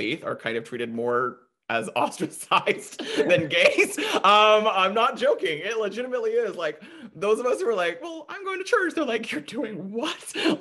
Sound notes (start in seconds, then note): 2.8 laughing